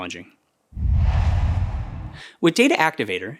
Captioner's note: logo swooshes